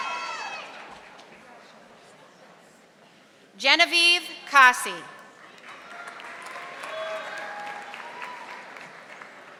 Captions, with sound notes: Genevieve Kasi. (audience applauding)